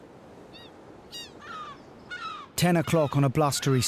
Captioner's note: seagulls screeching